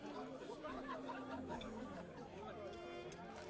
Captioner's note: people chattering